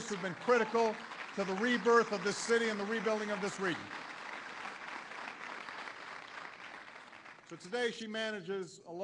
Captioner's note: applause